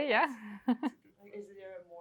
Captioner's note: chuckles